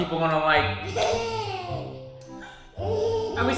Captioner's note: laughing